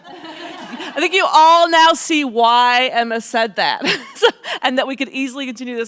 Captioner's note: audience laughs; laughs